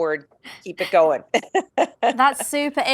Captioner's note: laughing